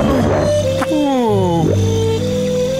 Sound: groaning

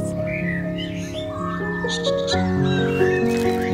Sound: bird sounds

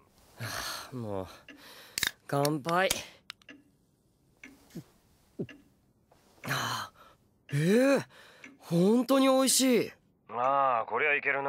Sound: drinks

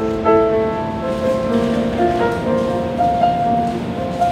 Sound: dog shaking

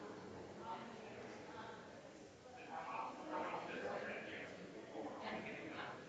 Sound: people chattering distantly continues

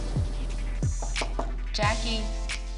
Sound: knocking

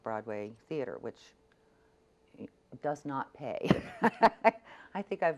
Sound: laughs

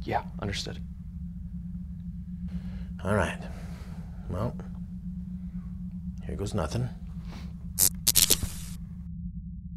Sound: zap

